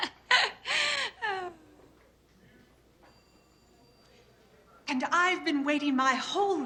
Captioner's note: laughing